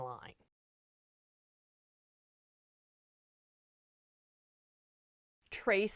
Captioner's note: no Sound Present